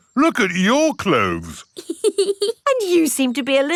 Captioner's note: laughs